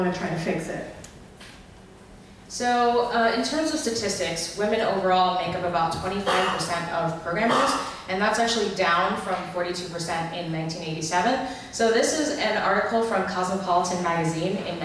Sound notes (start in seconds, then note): 2.8 voiceover